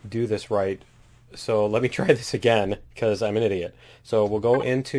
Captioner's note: laughs